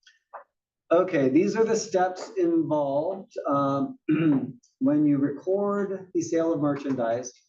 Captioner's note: cough